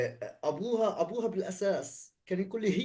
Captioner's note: speaking arabic